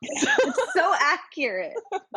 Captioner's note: laughter